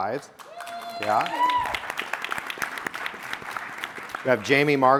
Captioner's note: audience applauding and cheering